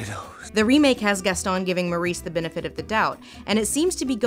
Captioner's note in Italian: voce fuori campo